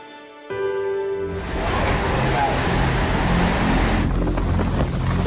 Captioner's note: gushing and blowing